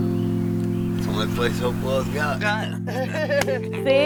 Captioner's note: laughs